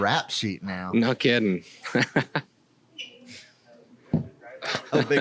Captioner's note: laughs